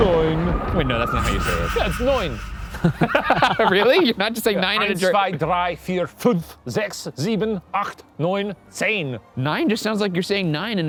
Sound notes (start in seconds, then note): 3.0 laughs; 4.1 laughing; 5.5 counting in German